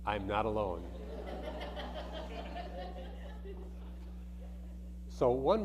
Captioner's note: audience laughing